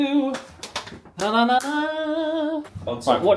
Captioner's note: hums